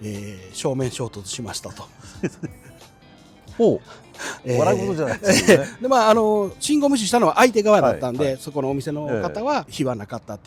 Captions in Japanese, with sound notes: え、正面衝突しましたと。そうですね。 ほう。 笑うことじゃないですね。 [笑い][鼻息] で、ま、あの、信号無視したのは相手側だったんで、そこのお店の方は火はなかったっていうことなんで、あれやったんですけど、